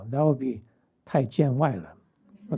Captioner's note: speaking chinese